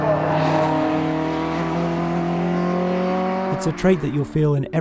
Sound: car engine revving

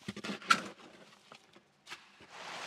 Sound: shovel scraping

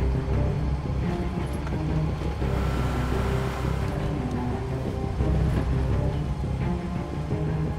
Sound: suspenseful music; engines rev

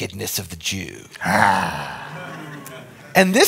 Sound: growls; audience chuckles

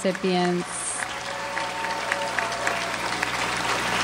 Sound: audience applauds

